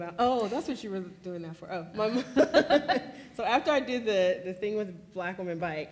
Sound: laughs

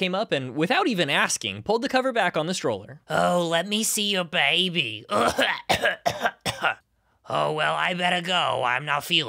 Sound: coughing

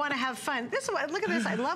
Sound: laughter

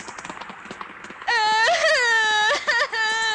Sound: crying

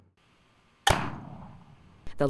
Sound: pop!

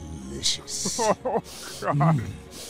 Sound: whimpers

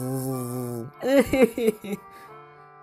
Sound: cries

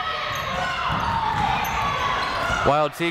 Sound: people shouting in the crowd

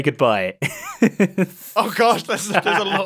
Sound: laughs

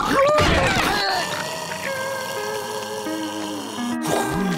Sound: snoring

